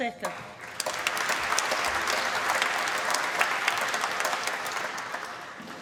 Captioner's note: applause